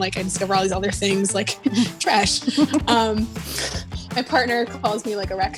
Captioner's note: both giggling